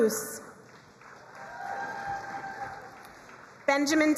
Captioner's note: crowd cheering and applauding